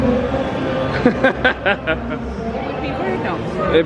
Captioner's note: laughing